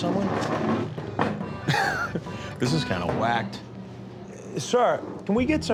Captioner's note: laughs